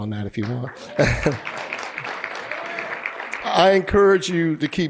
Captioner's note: applause